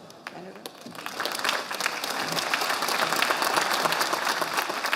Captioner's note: audience applauding